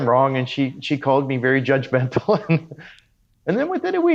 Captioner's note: laughs